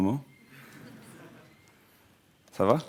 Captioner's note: audience laughing